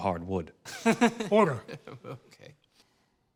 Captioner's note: laughs